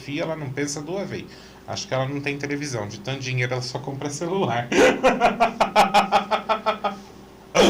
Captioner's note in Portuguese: risadas